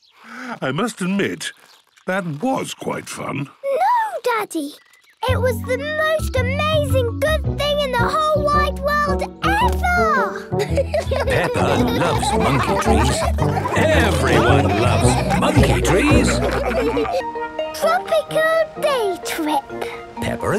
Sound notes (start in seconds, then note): 10.3 laughing; 16.4 all laughing